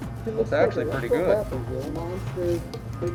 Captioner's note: voiceover